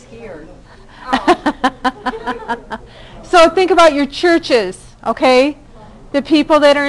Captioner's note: laughing